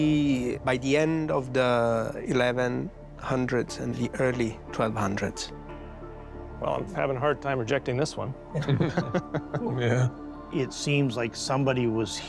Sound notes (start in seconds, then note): 8.5 laughter